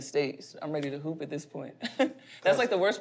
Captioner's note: chuckles